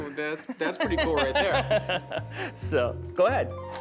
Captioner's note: laughing